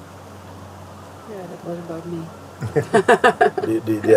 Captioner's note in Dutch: gelach